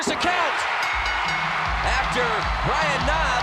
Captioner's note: applause